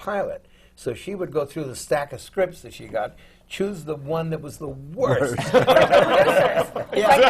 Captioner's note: laughter